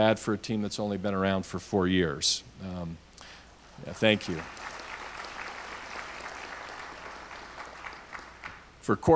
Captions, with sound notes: Not bad for a team that's only been around for four years. (audience applauds) Thank you.